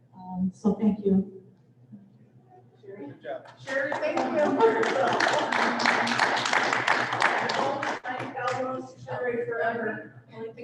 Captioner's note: applause